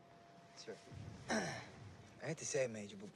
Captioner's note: clears throat